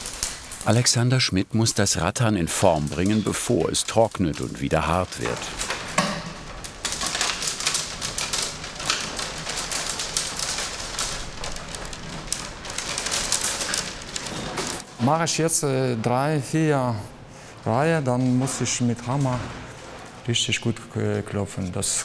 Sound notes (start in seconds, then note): 5.5 rustling